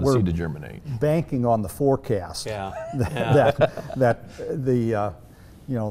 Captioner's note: laughing